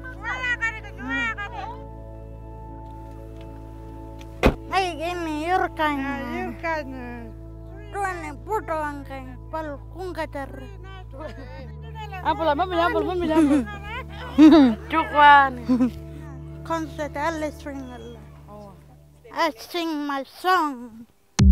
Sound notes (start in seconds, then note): 0.1 speaking in Pitjantjatjara language; 4.6 speaking in Pitjantjatjara language